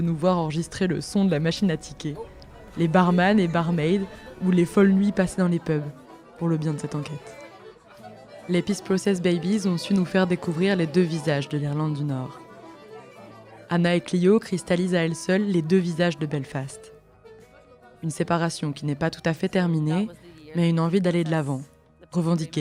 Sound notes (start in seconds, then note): 3.1 pub sounds